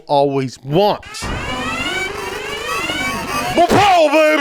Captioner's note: alarms rings